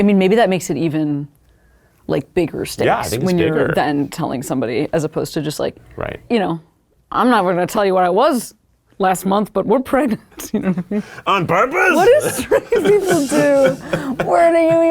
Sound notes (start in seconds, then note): 10.7 laughs